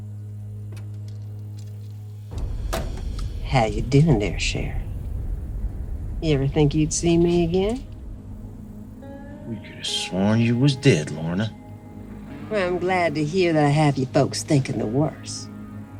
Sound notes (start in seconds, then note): 2.3 door opens